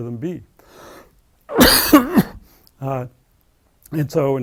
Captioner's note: cough